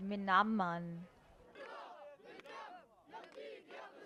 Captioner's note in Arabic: هتاف